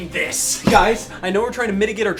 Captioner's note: sword whooshing